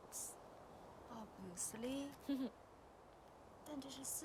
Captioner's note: Qi'an chuckles